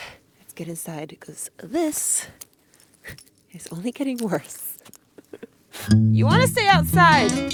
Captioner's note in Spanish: risas